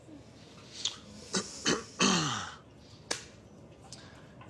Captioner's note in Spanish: Carraspea